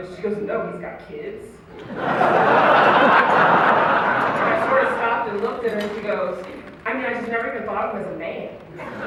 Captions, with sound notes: She goes, "No, he's got kids??" [Laughter] And I sort of stopped and looked at her and she goes "I mean, I just never even thought of him as a man."